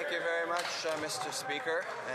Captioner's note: speaking French